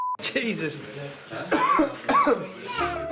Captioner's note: beeping sound; coughing